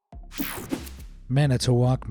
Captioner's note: screen whooshing